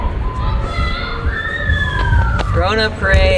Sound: shouting

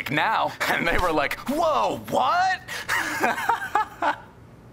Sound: laughs

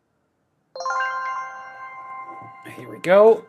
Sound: bell ringing

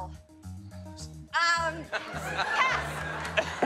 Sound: laughs

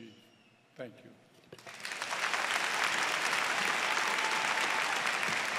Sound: applause

